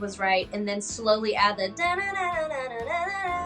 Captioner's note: hums melody